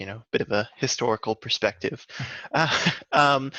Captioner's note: laughs